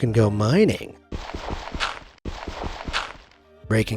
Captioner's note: game thuds, crunches